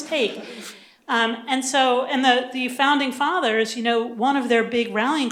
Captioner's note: laughter